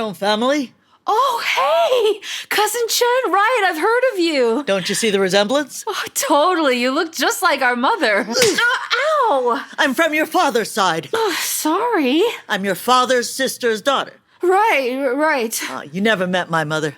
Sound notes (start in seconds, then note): 8.3 sound of a slap